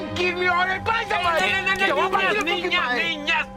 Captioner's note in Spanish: Gritos al unísono